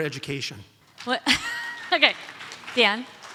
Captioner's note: audience applauds